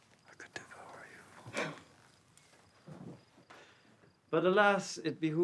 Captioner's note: Emma gasps